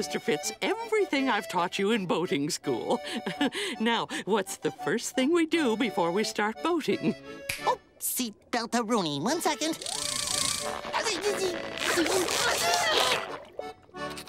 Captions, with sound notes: everything I've taught you in boating school. [chuckles] Now what's the first thing we do before we start boating? Oh, seat beltorooni. One second. [grunting]